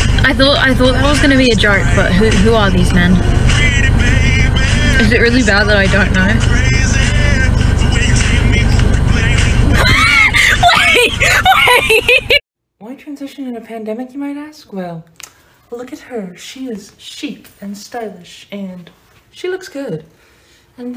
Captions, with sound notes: i thought- i thought this was gonna be a joke but who- who are these men? is it really bad that i don't know? *wheeze* WAIT, WAIT-